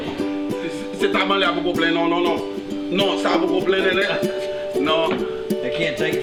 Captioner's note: objecting in Creole